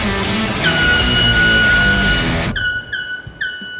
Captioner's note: buzzer sound